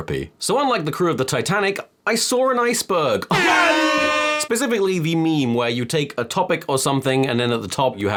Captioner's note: airhorn